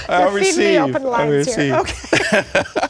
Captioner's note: laughter